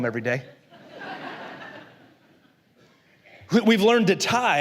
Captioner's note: la congregación se ríe